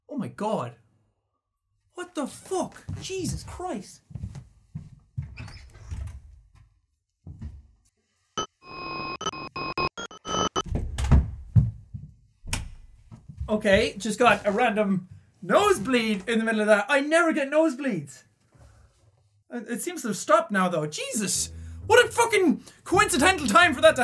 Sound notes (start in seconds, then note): 8.4 Static